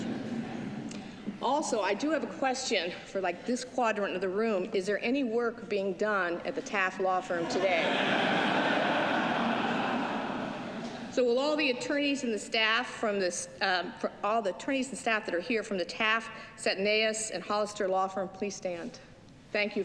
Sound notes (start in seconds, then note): 8.7 laughter